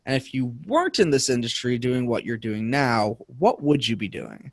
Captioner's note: none